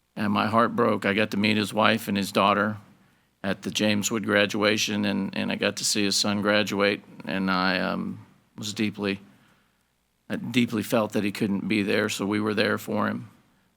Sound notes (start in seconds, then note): none